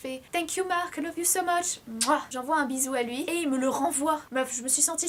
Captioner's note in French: smack